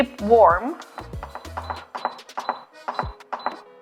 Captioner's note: beeping